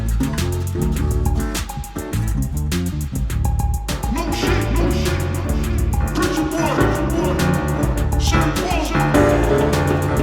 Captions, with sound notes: - New shit! (echoing) Preacherboy! Sammie Moore!